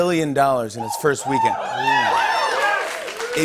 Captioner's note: cheers and applause